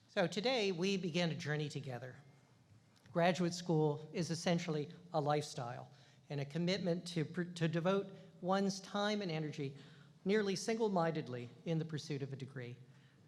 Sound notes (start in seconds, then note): none